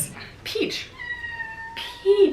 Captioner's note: cat meowing